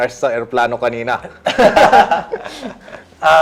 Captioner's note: laughs